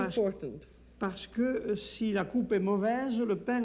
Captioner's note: speaking French